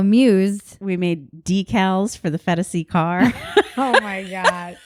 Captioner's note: laughs